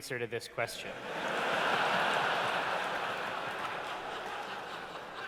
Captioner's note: laughter